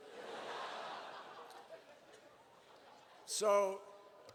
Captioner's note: laughter